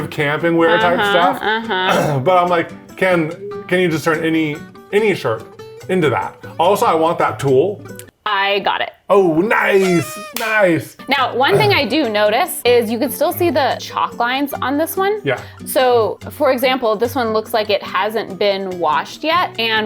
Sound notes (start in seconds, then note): 9.8 hands slap